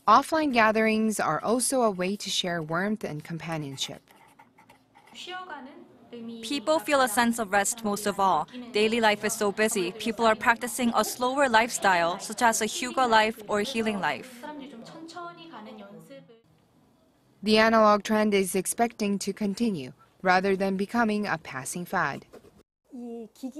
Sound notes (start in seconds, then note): 4.4 Korean; 23.3 Korean